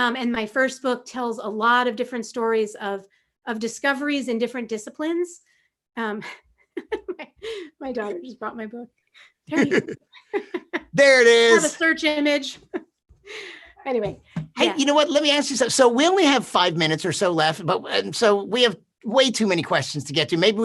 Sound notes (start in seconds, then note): 6.0 laughs